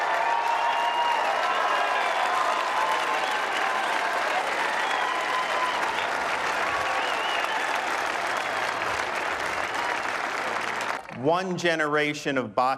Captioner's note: cheering and applause